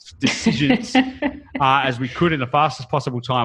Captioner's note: laughs